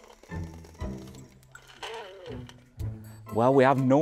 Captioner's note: toy winding; E.T. sound